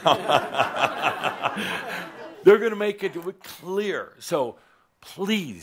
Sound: Adamus chuckles

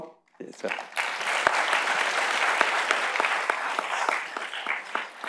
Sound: audience applauding

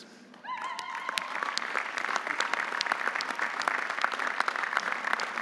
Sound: audience applauding

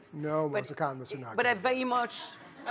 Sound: laughter

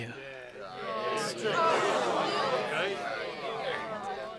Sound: crowd shouting

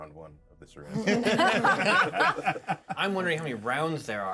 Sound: laughs

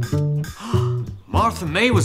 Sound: vibrations; gasps

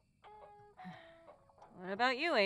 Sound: sigh

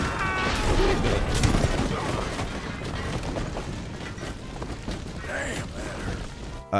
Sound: people shout; carts, horses, and people crash

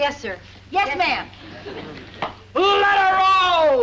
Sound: audience laughs

